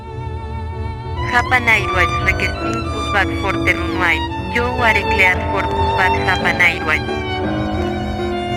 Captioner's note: speaking Spanish